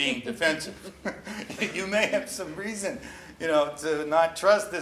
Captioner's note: laughs